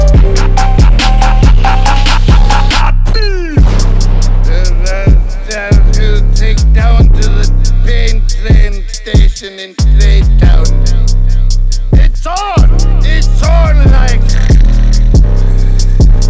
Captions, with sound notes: ka-ka-ka-ka..... KAH BOOM! *Scottish drunken gibberish again*